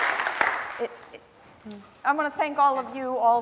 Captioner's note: applause